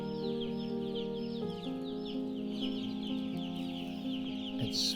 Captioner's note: chicks chirping